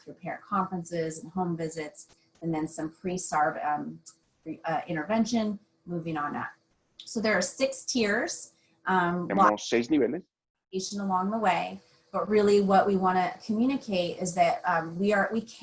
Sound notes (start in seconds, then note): 9.1 member chattering